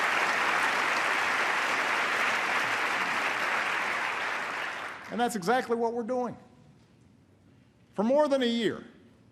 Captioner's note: applause